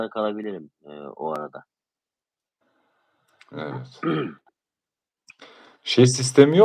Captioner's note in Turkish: boğazını temizler